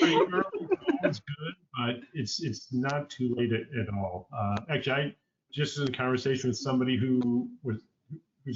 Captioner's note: laughter, talking over each other